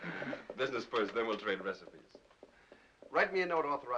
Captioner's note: chuckles